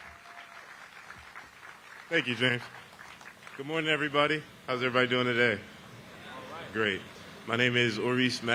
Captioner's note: applause